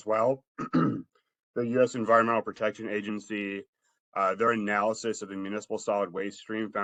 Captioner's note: cough